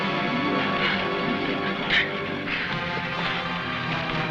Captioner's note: men grunting